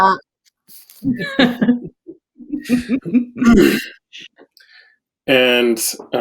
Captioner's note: laughs